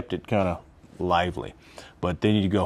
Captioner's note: gasps